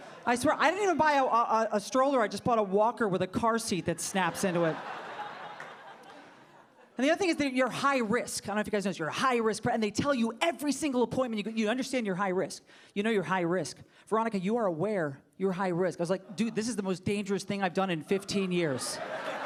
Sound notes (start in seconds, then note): 5.5 audience laughing